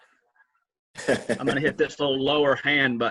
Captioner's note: laughs